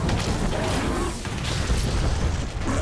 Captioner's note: exploding